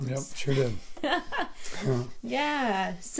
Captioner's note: laughs